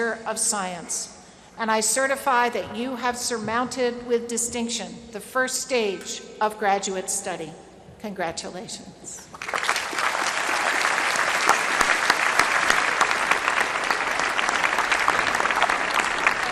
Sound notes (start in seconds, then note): 9.3 applause